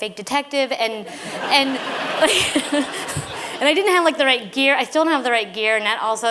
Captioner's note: laughter